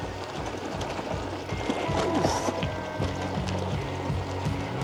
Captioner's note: bike rattles over rough terrian